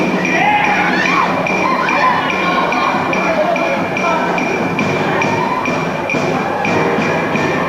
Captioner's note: warrior yells with a strike; villagers cry forth